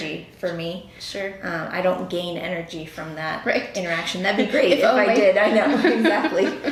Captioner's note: laughing